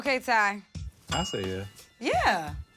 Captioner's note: jazzy; bell rings